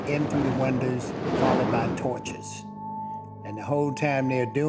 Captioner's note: flames roaring